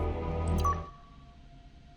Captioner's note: UI chimes